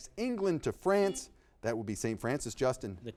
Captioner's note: buzzer beeping